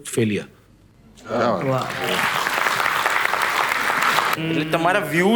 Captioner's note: crowd applauding